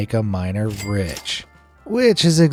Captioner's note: cash register rings